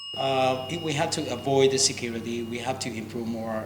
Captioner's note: rings the bell